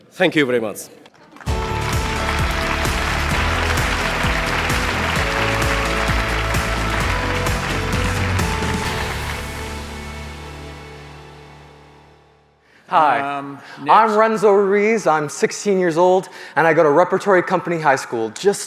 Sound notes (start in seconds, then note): 1.3 audience applauding; 1.4 bright music